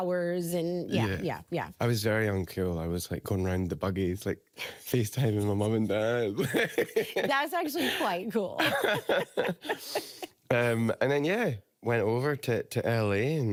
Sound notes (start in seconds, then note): 8.5 laughing; 8.5 both laughing